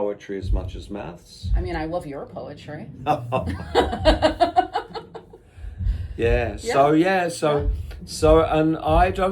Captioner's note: laughs